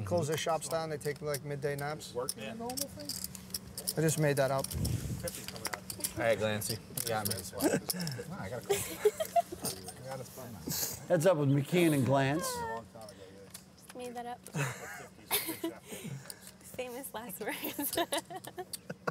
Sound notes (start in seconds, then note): 8.6 laughter; 15.2 laughing; 18.2 laughs